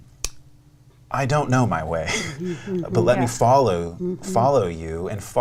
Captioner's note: laughs